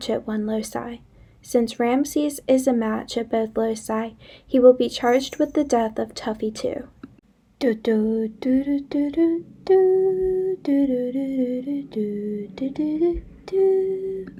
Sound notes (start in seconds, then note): 9.6 really bad humming